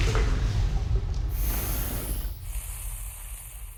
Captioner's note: fire sizzling